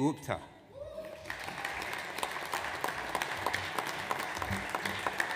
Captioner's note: audience applauds